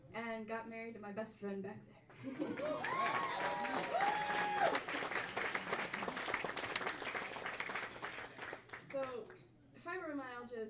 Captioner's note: crowd cheers and whoops!